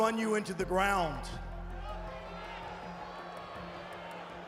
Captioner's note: crowd booing